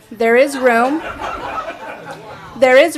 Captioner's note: audible laughter